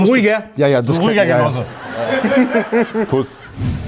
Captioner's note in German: Gelächter